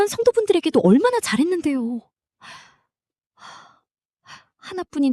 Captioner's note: gasp